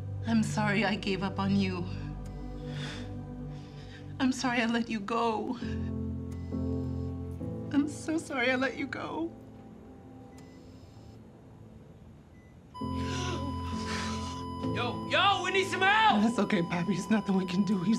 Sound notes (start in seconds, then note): 12.3 beeping